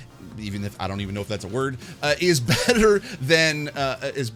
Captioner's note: laughs